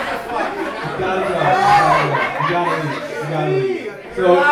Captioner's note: audience erupting